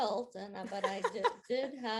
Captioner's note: chuckling